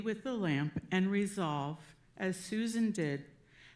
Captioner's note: none